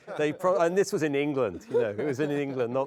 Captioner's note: laughs